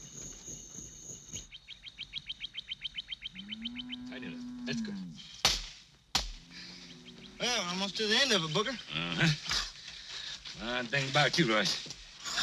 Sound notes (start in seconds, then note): 0.0 birds calling; 1.3 cow mooing; 5.4 hammer strikes